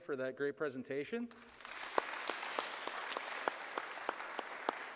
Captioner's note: audience applauds